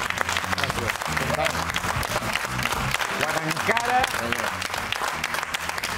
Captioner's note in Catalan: aplaudiments